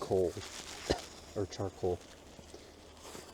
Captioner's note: coughs